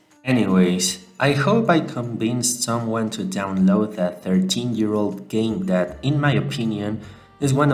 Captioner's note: speaking more relaxed